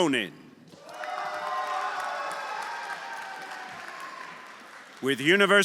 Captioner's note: everyone applauding and cheering